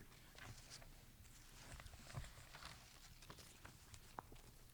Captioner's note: paper scuffling